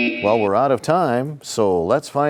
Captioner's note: sound of a buzzer